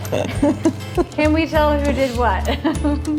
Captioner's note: laughter